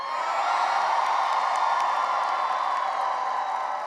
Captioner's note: cheering and applause